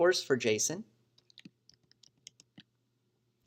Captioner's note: typing